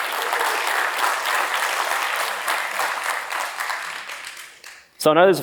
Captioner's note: applause